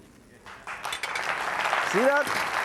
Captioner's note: audience applauds